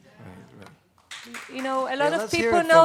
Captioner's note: applause